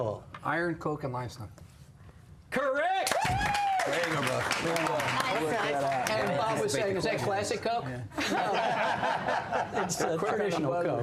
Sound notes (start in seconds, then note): 3.0 applause